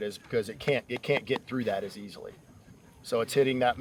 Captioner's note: none